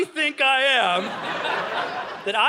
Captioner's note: audience laughing